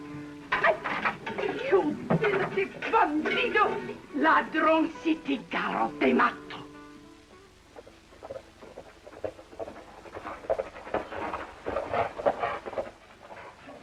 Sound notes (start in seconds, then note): 2.0 speaking spanish; 9.2 hooves clopping